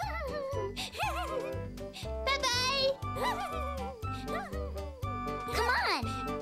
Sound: giggling

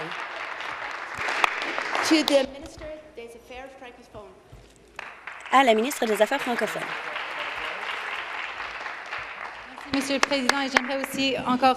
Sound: applause

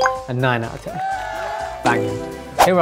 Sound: recording of crowd cheering

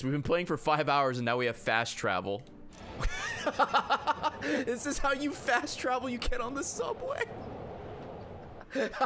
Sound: laughs

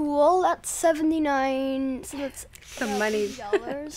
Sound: inhales sharply; chuckles

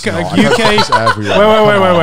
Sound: laughing

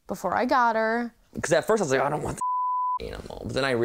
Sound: beep

